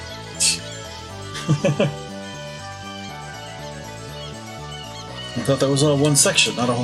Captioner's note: laughs